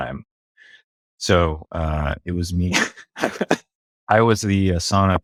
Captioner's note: laughs